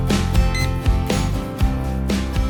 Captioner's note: beep Sound